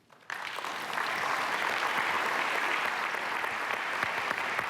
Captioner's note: applause